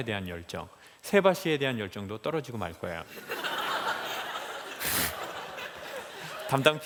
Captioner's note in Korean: 웃음